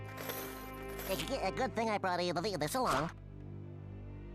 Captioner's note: stuttering